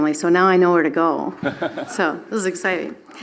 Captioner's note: laughs